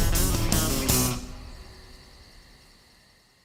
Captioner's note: music fades; crickets chirp